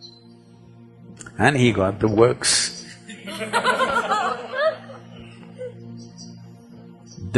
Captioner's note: laughter